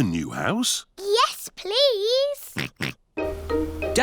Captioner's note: oinks